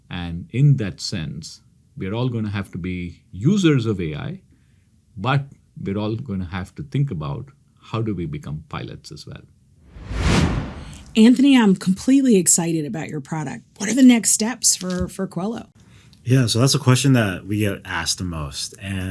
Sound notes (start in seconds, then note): 9.9 air whooshing